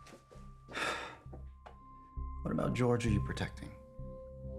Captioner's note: sighs